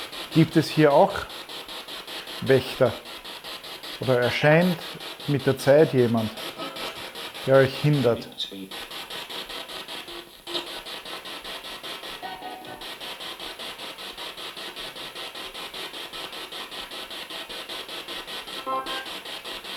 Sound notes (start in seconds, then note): 8.9 sound of the Spirit Box in the background